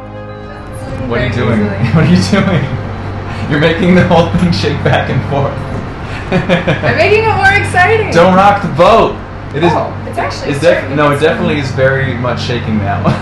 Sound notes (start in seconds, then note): 6.4 laughs